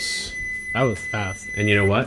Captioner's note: timer beeping